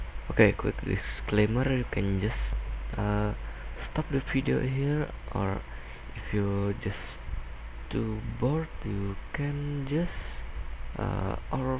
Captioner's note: announcement